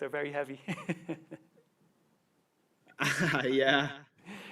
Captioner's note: chuckles; chuckles